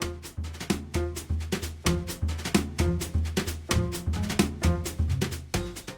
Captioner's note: music and Diesel Engine Sounds